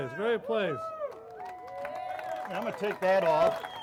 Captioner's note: crowd cheering